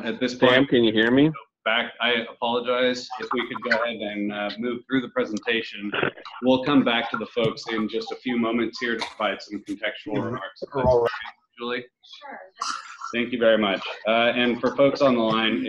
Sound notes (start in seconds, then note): 9.6 voice is garbled